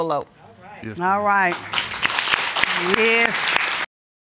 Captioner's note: applause